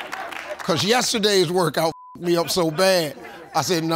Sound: beep

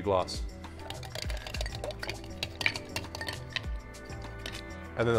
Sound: ice cubes sploshing

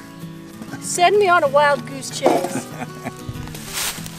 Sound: chuckles

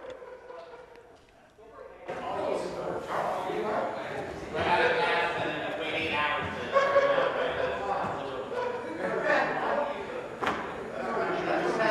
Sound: crowd Noise

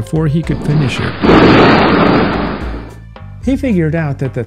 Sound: thunder crashing

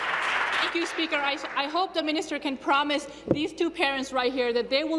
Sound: applause

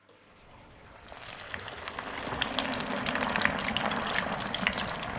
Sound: steak sizzling

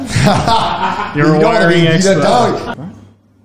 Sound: laughs

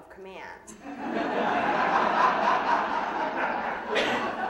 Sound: audience laughing

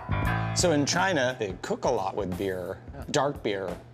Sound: none

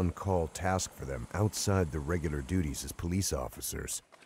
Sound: helicopter whirring; voiceover

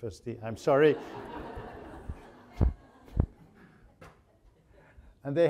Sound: audience laughing

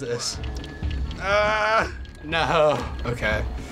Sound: groans

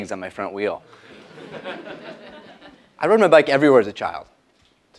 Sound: laugh

